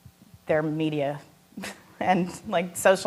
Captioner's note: chuckling